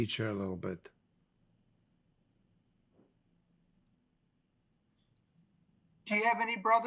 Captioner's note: pauses 4 seconds